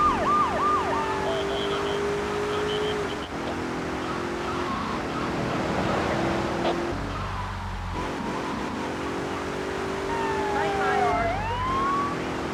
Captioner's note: sirens wailing